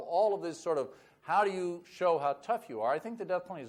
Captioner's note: none